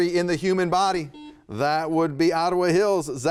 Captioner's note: buzzer beeping